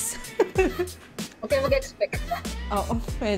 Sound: laughs

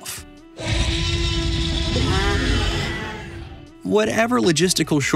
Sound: roaring

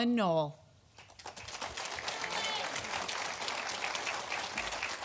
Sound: audience applauding

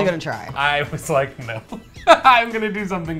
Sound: laughs

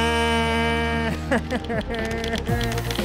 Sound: laughs; upbeat music

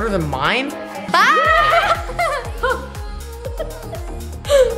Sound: laughing

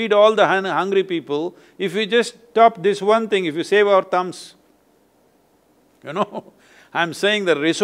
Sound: laughs

